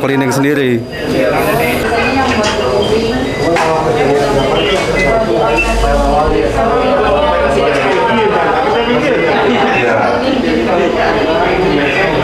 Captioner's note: distant chattering